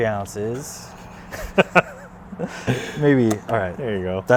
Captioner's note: laughing